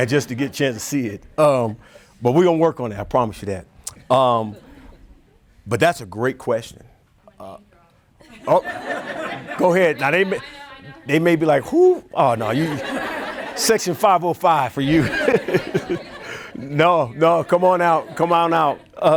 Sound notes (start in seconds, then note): 14.8 everyone laughing